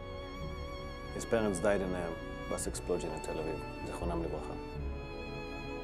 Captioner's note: in Hebrew